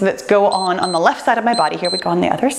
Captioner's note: timer beeps